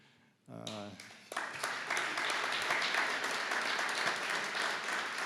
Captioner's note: audience clapping